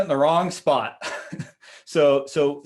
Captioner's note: laughing